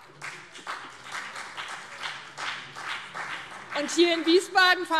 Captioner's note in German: Beifall BÜNDNIS 90/DIE GRÜNEN und CDU